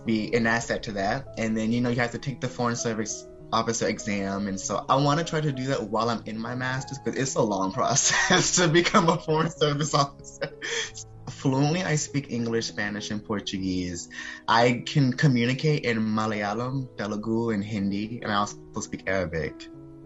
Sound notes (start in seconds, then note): 8.0 laughing